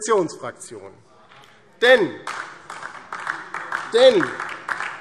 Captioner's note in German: Beifall DIE LINKE